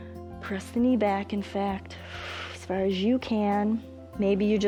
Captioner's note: exhales